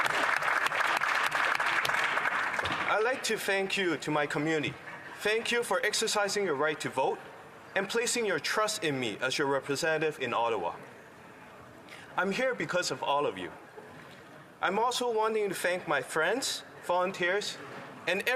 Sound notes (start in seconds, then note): 3.3 applause